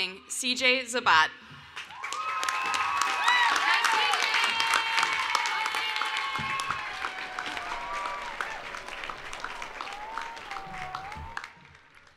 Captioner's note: cheering and Applause